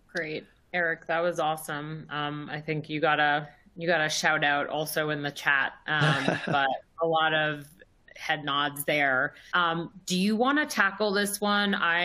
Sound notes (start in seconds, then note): 6.0 laughs